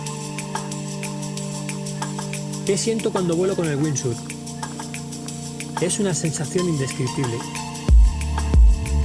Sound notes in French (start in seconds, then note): 2.4 en espagnol